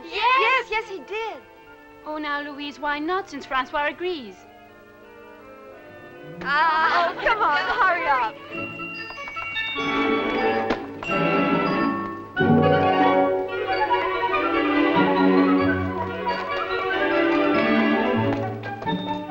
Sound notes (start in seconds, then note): 6.6 girls laughing; 8.4 happy music